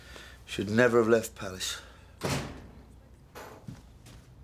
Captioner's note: door closes